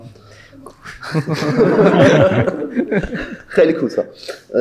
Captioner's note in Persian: خنده حضار